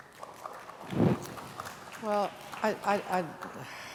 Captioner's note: applause